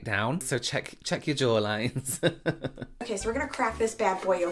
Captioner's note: laughing